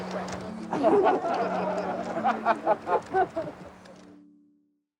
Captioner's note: laughter